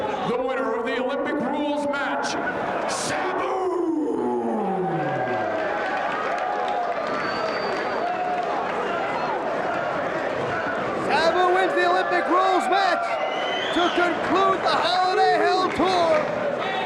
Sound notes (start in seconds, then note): 4.6 spectators cheering and applauding; 8.1 spectators chanting "Sabu!"